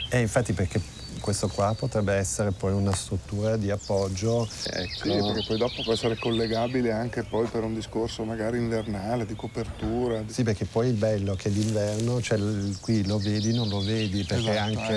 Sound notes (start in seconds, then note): 0.2 speaks in foreign language